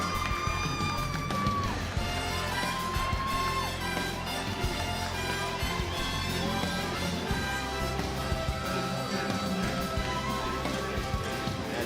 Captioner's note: crowd cheering